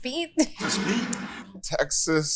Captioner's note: bottle scrapes